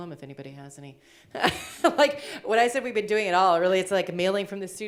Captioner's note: laughs